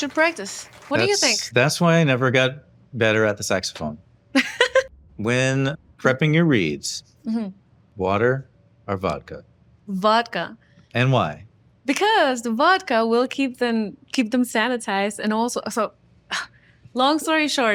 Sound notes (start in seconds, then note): 4.3 chuckles